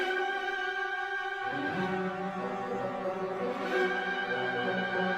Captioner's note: none